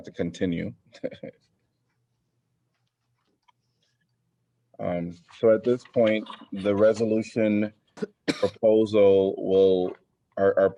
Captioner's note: laughter